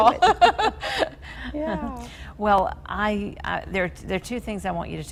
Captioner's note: both laughing